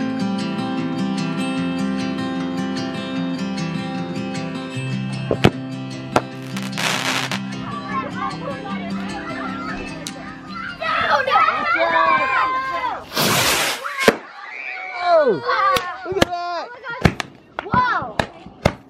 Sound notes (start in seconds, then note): 6.1 fireworks cracking; 13.0 firework cracking; 15.7 fireworks popping